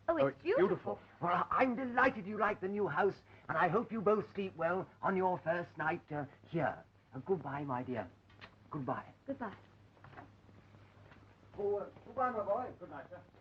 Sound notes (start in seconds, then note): none